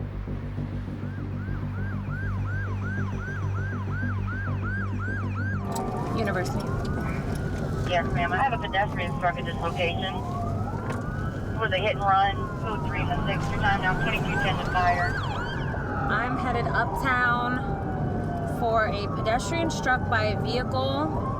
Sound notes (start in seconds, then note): 1.2 siren wailing